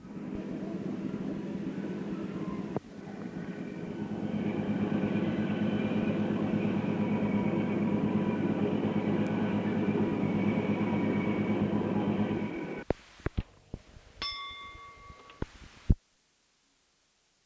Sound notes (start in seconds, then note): 0.0 sound of train moving; 14.2 bell Sound